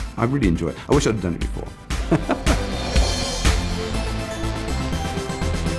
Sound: laughs

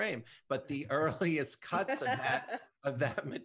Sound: laughs

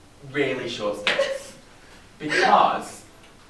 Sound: Rachel laughs

